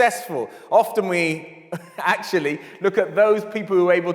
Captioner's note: chuckles